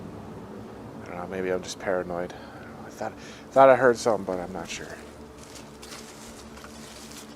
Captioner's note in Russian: Шаги